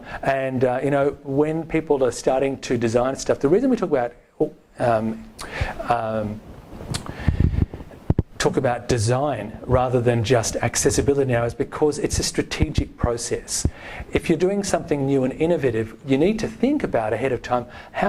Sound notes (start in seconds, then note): none